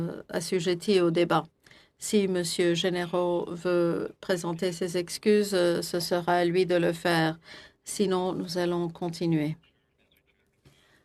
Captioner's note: speaking French